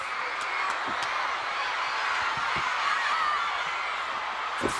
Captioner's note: audience cheering